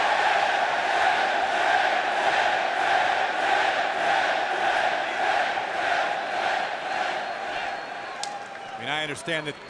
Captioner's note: cheers and applause; fans chanting